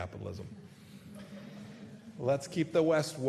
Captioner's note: laughter